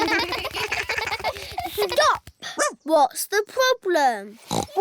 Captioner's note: barks; oinks